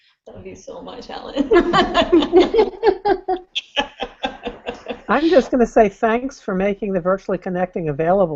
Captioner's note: laughter